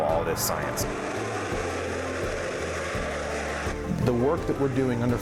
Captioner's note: noise of rocket engine